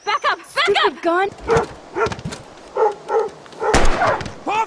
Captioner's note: Pompidou barking; Pompidou barks in pain